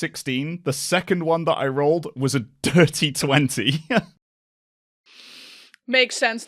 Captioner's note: laughs